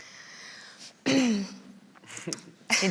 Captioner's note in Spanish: carraspea